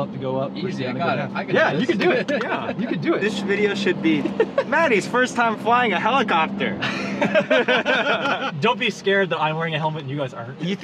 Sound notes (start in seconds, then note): 6.8 everyone laughs